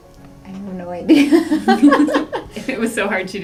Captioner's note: laugh